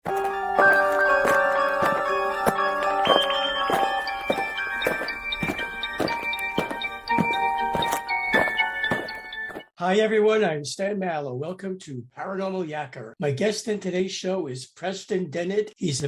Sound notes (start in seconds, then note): 0.0 alien marching; 0.0 eerie music